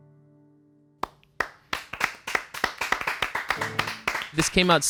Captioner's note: crowd clapping